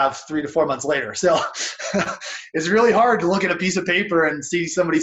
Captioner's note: laughs